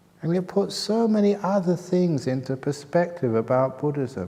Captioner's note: none